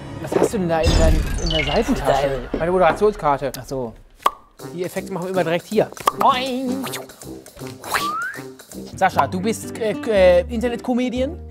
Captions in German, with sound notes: Was hast du denn da in der Seitentasche? Meine Moderationskarte. (Plopp) Boing. (Pfiff) Sascha, du bist Internetcomedian.